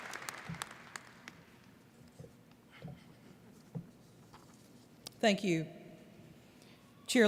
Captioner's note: applause